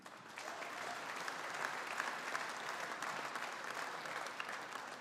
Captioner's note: audience applauding